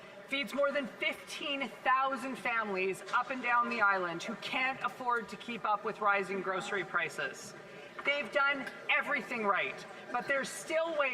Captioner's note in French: voix de l'interprète